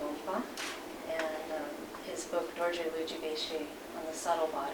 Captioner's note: non-english speech; non-english speech